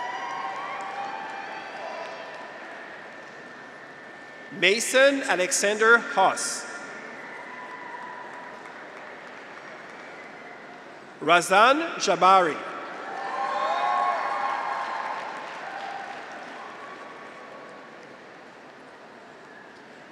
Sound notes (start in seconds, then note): 0.0 audience applauds; 0.0 graduates cheer; 7.5 audience applauds; 7.8 graduates cheer; 13.0 audience applauds; 13.4 graduates cheer